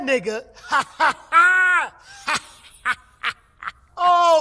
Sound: laughing

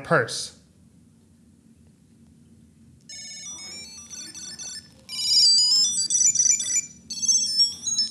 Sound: phone ringing

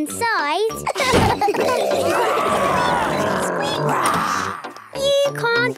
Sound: giggling; growls, snorts

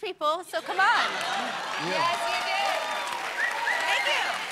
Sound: cheers and applause

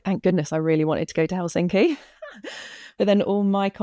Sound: laughs

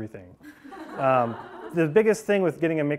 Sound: class laughing

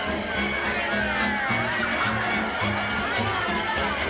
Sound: crowd chatter

